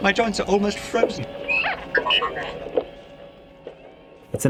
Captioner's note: beeping sounds